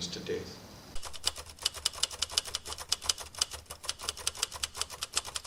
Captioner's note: typewriter clicking